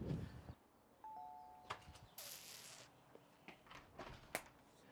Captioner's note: doorbell rings